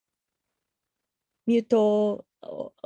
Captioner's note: speaking foreign language